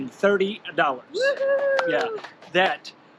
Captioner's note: cheering